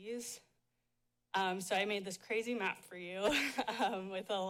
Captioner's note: chuckles